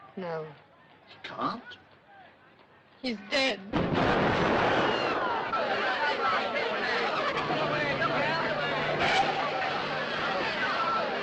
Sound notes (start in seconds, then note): 3.7 explosion; 6.4 agitated crowd noises and shouting